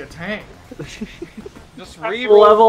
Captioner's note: chuckling